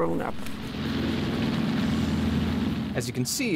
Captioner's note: plane engines revving